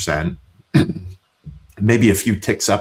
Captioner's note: clears Throat